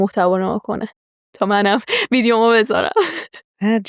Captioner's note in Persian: خنده